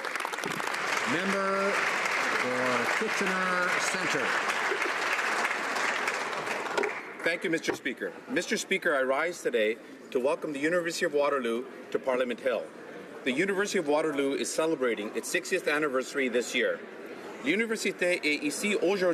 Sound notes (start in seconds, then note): 2.6 some Applause